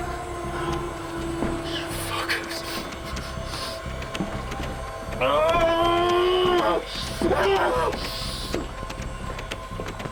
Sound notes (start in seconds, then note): 5.1 Eric groaning